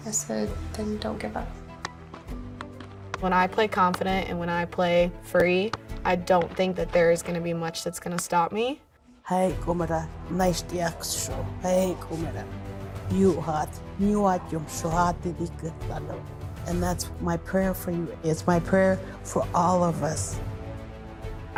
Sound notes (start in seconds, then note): 9.4 speaking Pueblo prayer